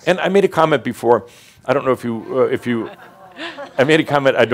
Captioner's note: audience says “Oh” referring to Mary Sue’s broken arm